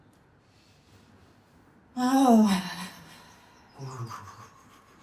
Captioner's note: moaning